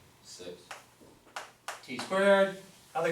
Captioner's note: voiceover